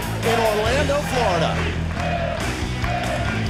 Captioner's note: crowd cheering